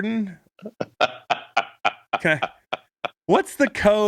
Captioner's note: laughing